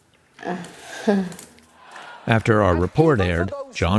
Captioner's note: laughs